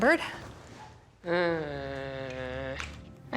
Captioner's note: groans